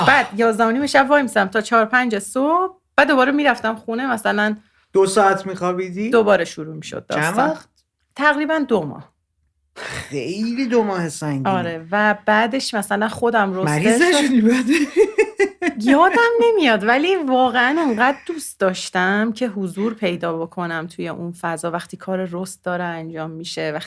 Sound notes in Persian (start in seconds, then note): 14.0 خنده